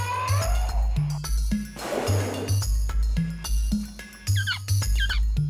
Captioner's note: trumpets; exhales; chirping